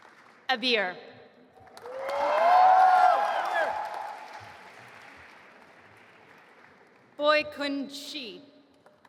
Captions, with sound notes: Abeer. (audience applauding and cheering) Baokun Gui.